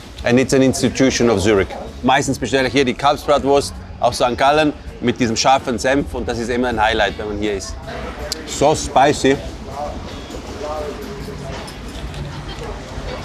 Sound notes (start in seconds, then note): 2.2 speaking foreign language